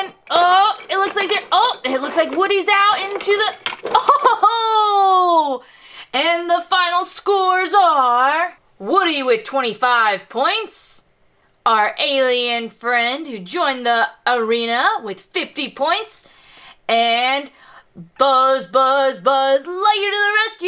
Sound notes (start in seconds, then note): 3.8 laughs